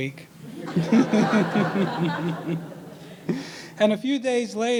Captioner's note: all laughing